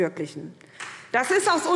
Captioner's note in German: Beifall SPD